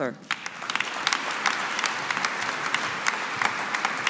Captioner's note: audience applauding